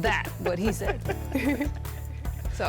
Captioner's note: both laugh